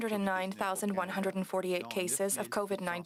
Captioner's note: speaking French